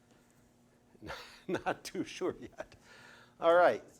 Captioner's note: laughing